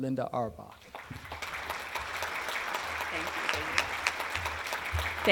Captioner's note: applause